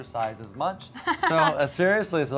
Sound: laughs

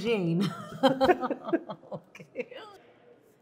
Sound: both continue laughing

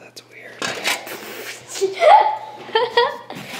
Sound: child laughs

